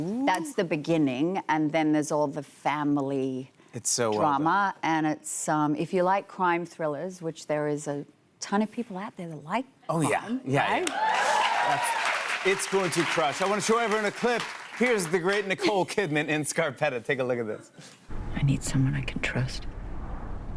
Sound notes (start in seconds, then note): 10.8 cheers and applause